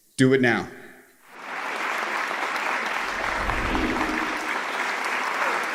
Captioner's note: audience applauding